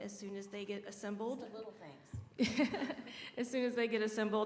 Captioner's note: laughter